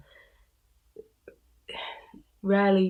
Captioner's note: sighs